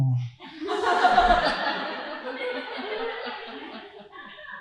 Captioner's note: audience laughing